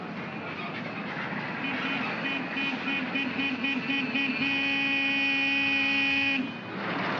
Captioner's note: jeep honks